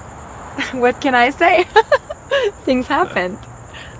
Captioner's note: giggles